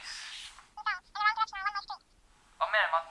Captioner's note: phone voice